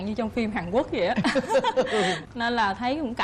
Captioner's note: laughing